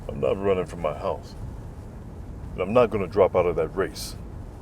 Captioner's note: none